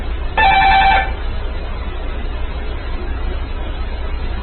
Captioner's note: it rings even louder